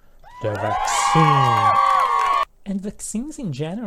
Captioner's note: fake applause